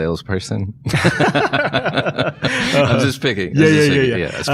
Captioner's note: both laughing